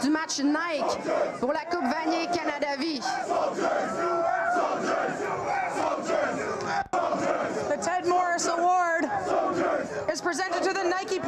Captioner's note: continuing in french